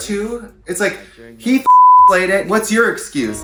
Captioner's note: beep